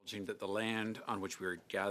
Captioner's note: speaking French